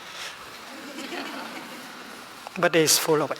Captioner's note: laughing